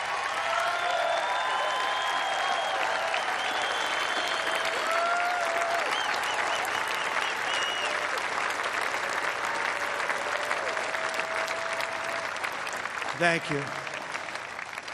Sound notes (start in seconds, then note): 4.0 cheers and applause